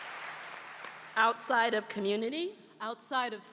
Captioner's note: applause